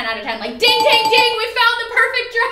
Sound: ringing bell

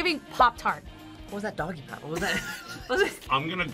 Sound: laughs

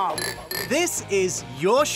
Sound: glasses clinking

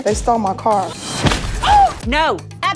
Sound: woman shrieks

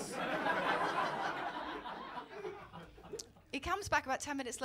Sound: laughter

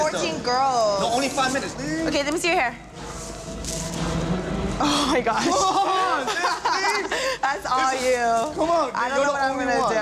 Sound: laughter

